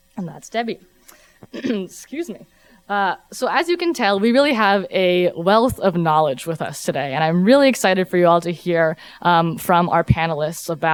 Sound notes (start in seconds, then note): 1.4 clears throat